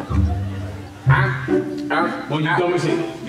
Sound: clucking

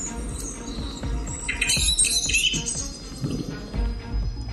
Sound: birds chirping; suspenseful music

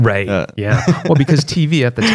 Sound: laughter

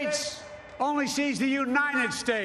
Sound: cheers and Applause

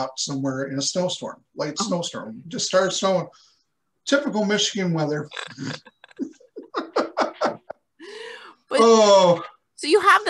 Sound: both laugh

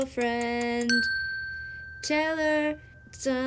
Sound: bell dinging

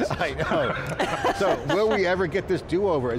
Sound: group laughing

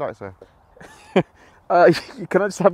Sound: giggles to himself

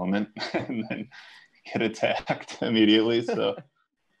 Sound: chuckles

